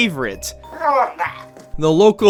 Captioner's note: throws up